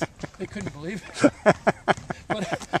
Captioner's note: laughing